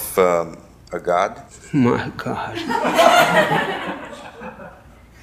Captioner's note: laughing